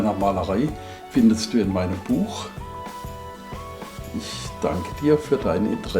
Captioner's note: in German